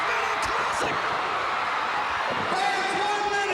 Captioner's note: crowd cheering